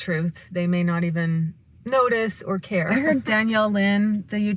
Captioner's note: laughs